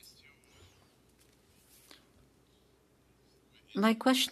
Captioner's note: speaking French